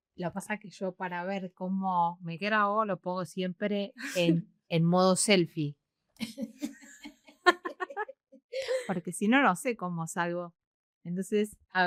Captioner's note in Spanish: risas